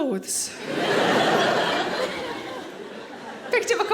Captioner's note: audience laughing